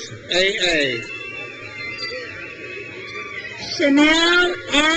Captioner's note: crowd cheers